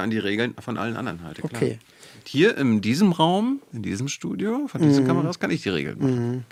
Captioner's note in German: räuspern